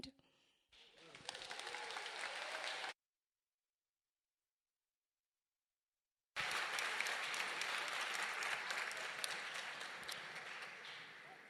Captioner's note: applause